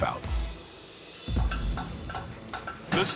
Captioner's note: clinking